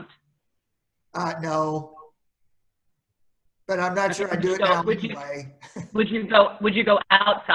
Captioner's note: chuckles